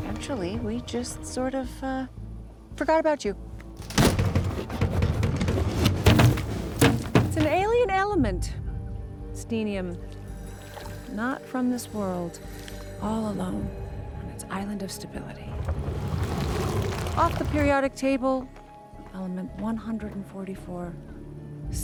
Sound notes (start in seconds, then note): 3.8 box rattles